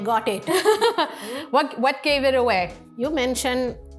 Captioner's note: laughs